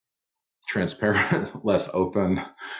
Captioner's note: chuckles